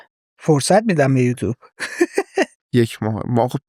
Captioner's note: laughs